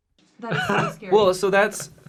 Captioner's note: laughing